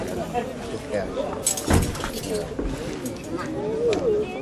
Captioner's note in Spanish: chocan las espadas